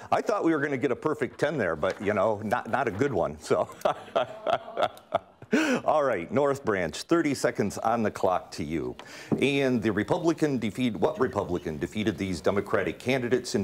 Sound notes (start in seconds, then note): 2.6 laughing